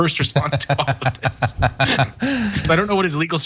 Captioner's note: laugh